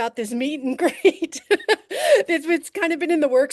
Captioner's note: laughing